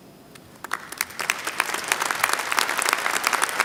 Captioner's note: applause